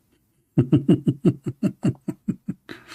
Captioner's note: Ketawa